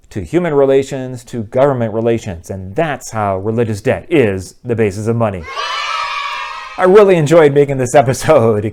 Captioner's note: kids cheering